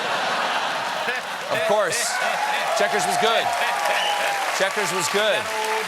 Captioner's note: laughter